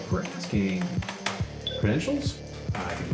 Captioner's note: access chime